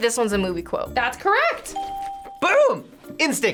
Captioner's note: bell rings